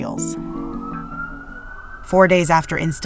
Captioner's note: sirens wailing in distance